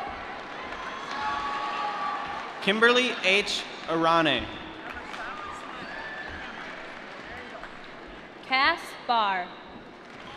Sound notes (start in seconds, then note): 0.2 applause; 6.4 applause